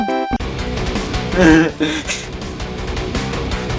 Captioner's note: nervous laughter noises